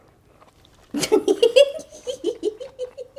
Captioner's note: giggling